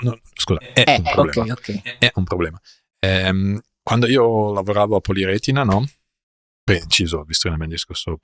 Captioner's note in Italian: risate